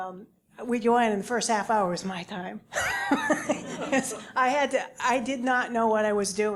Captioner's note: laugh